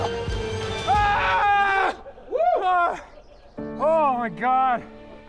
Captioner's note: yells triumphantly